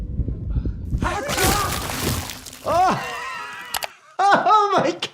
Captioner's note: heart beating; sneezes